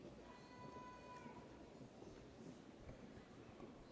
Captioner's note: none